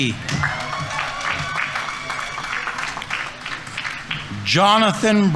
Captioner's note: audience applauding; audience members cheering